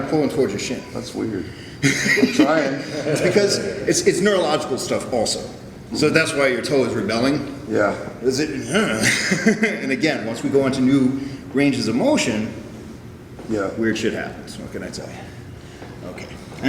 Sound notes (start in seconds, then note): 1.8 chukles; 1.8 laughs; 8.9 chuckles